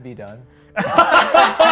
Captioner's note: laughter